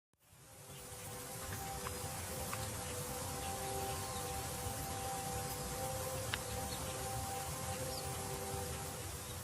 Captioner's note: distant train horn by river